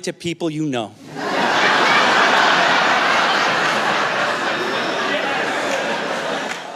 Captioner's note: laughter